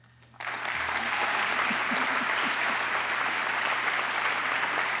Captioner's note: applause